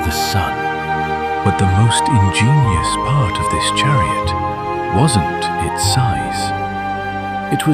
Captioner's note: thoughtful